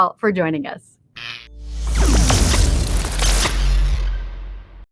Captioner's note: electricity fizzing